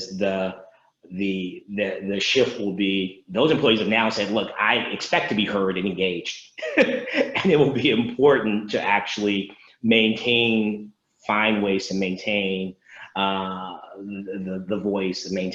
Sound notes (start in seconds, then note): 6.6 laughs